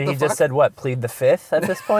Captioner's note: voiceover